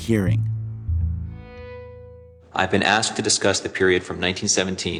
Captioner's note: soundbite of archived recording